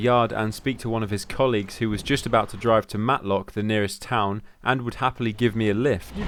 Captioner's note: none